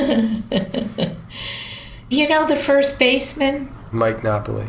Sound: laughs

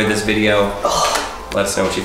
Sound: sighs

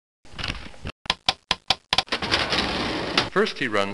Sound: clanking

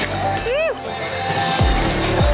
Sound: cheers; upbeat music

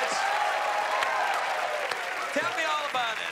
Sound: cheers and applause

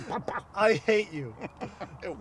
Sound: laughing

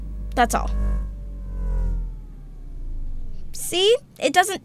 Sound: buzzing

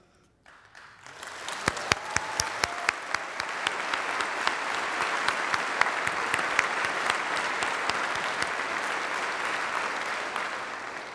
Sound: applause

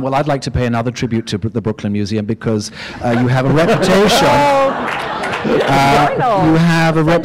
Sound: laughter

